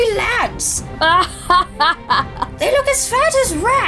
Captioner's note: Altair laughing